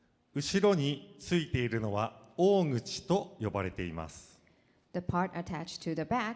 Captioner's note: speaking foreign language